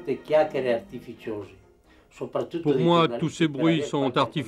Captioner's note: Italian spoken language